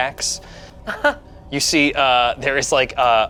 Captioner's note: laughs